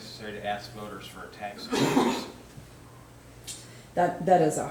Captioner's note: man coughing